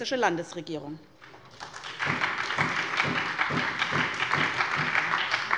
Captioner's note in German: Beifall bei der SPD